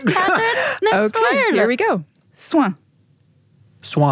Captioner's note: foreign language